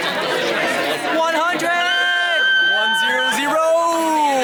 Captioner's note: squealing